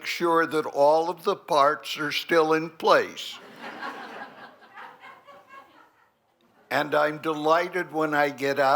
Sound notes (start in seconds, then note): 3.4 laughter